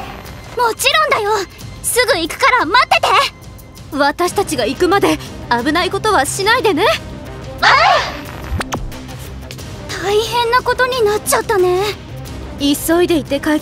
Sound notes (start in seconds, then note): 7.6 anime noises